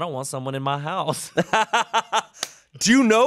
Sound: everyone laughs

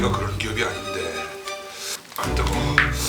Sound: sucking in air

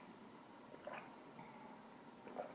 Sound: gulp Gulp Gulp Gulp; gulp Gulp Gulp Gulp Gulp

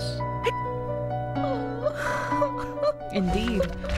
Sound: weeping

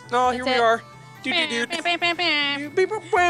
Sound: sound effects

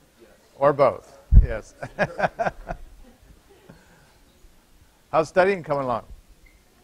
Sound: laughter

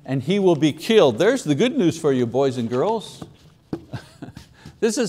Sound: chuckles

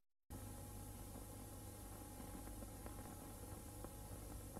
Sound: VHS static

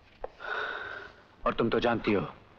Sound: sighs

